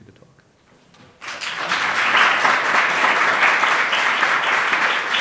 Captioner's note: applause